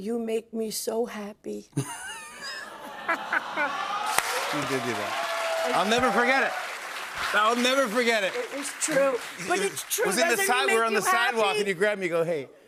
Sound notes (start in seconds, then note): 1.8 laughs; 2.9 audience awws